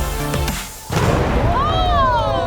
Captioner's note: water whooshes